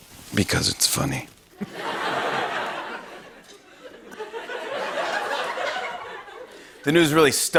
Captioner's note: laughter